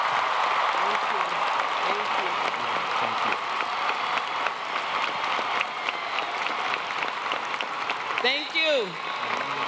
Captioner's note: applause